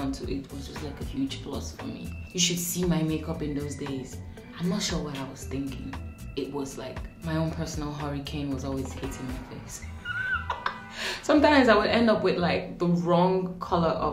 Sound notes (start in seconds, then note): 9.8 laughing